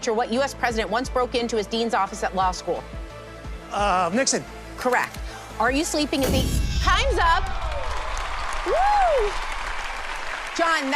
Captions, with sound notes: Foreshadowing his future, what U.S. president once broke into his dean's office at law school? Nixon. Correct. Are you sleeping is the -- Time's up. [ Cheers and applause ] Whoo!